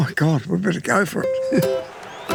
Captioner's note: laughs